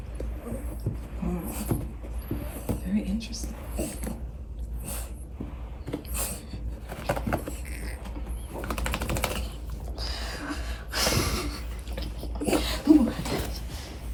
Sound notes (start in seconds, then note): 4.2 grunts; 5.8 rat huffs; 7.9 holding back laughter; 8.5 idiot dog shakes self; 10.3 quietly laughs; 12.3 babby sneezes again